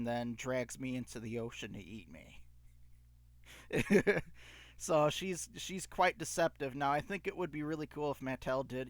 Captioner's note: laughing